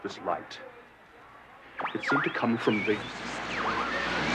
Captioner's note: berkedip statis